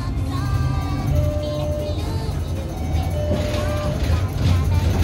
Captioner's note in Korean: 하차벨 소리